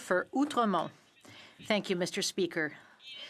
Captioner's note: speaking French